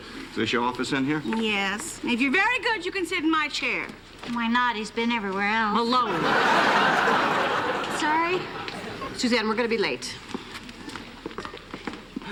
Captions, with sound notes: So this your office in here? - Yes, and if you're very good you can sit in my chair. - Why not? He's been everywhere else. - Malone. (laughter) - Sorry. - Suzanne, we're gonna be late.